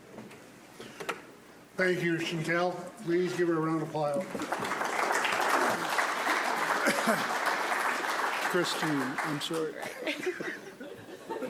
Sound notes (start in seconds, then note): 4.2 audience applauds